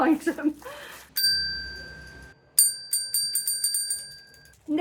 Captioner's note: ding. Ding ding ding ding ding